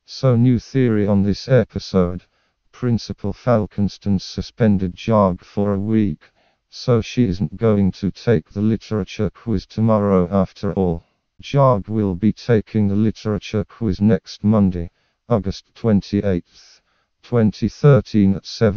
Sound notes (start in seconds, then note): none